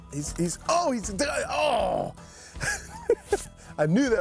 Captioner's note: chuckles